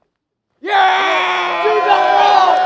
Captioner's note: cheering